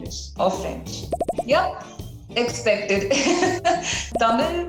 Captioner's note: laughs